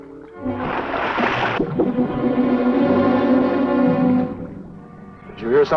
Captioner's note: water splashing; tense music